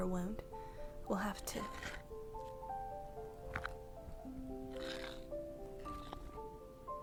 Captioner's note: low rock scraping sounds